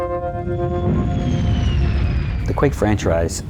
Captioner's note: rocket sounds